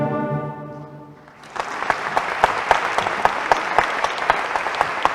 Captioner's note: applause